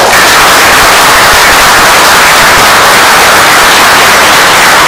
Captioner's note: oklaski